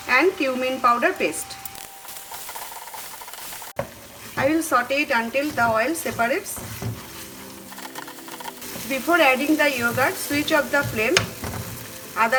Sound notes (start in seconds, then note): 2.2 pan sizzling